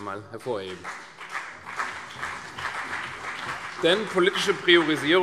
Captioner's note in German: Beifall CDU und BÜNDNIS 90/DIE GRÜNEN